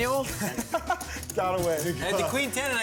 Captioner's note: laughter